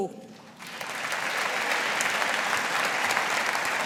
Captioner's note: audience applauding